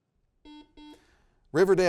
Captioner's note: buzzer beeps